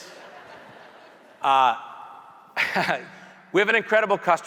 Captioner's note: audience laughing